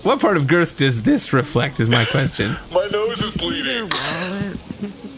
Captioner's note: shouting